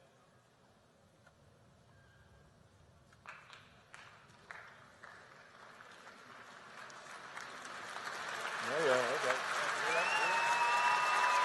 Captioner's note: applause